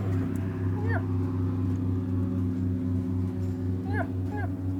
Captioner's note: animal calling